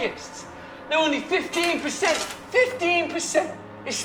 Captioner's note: candy clinking